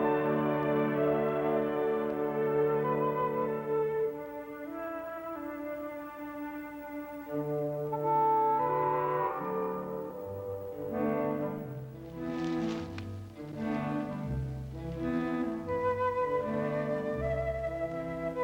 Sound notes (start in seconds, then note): 11.6 leaves rustle; 13.7 orchestral music continues